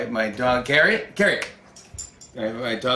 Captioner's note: snaps fingers